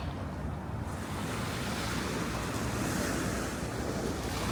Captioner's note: waves lapping